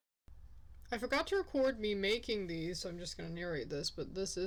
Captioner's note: rattly bad microphone quality lol